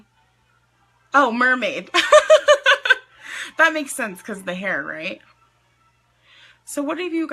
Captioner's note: laughs